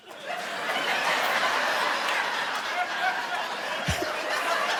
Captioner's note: audience laughing; laughs; audience laughing